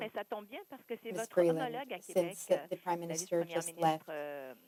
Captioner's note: speaking French